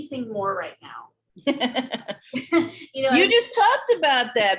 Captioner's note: laughs